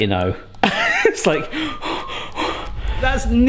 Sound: heavy breathing

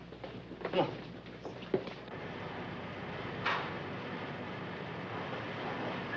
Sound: footsteps banging

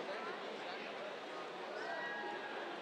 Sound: cheers

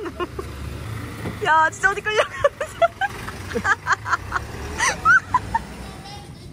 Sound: laughs

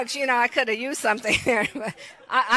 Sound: laughs

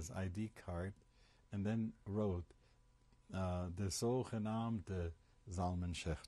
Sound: non-english speech

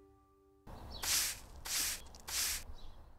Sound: sweeping

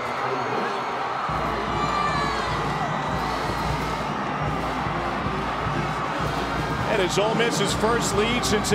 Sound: crowd cheering

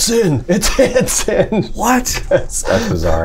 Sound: laughter

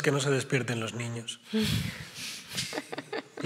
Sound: laughs

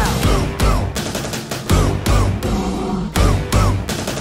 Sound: roar!

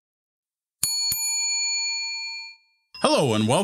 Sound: bell ringing

